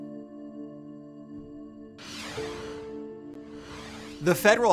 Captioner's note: light music; air whooshes